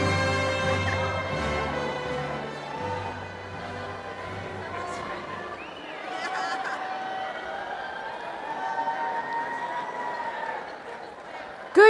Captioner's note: cheering and crowd chatter